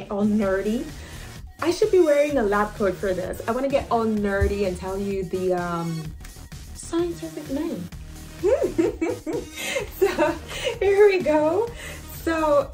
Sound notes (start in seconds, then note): 8.4 laughs